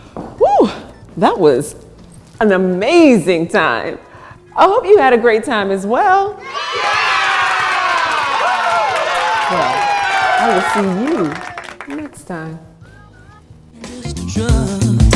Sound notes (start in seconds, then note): 6.4 cheering